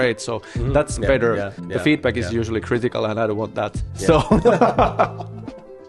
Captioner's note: laughter